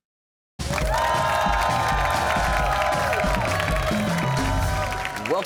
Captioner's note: cheers and applause